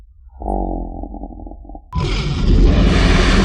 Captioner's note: growling; slow motion growling; snarling